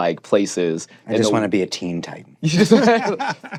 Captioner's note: laughter